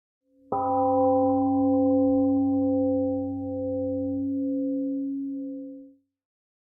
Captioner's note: temple gong rings and fades